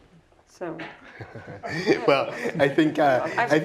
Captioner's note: laugh